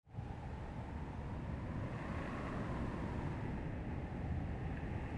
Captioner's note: wind lightly blowing